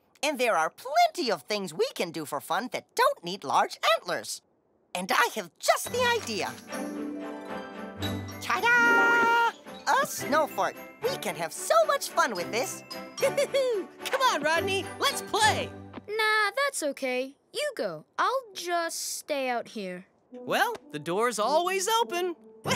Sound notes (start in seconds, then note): 13.0 cheers